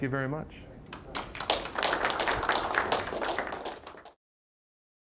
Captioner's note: applause